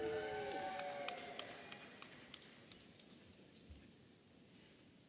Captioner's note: audience applauding and cheering